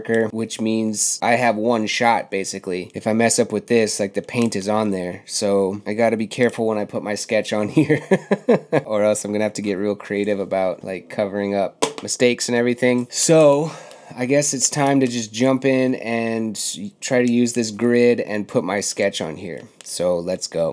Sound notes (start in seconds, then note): 7.8 laughs